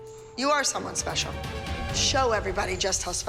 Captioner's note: quietly